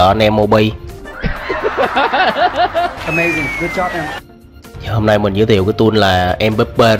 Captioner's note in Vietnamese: Tiếng cười